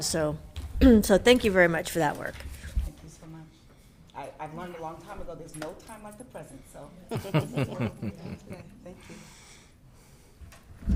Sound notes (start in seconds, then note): 7.1 all chuckling